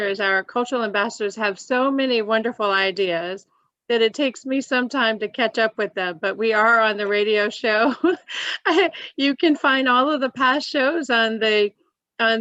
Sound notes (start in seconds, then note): 7.9 laughs